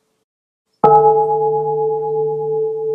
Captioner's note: bell